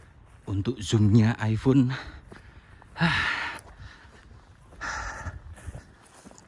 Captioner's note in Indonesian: menghela napas